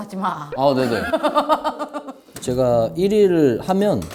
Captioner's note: laughing like a man